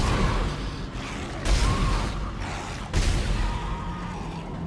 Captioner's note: dramatic music; gunshots; dramatic music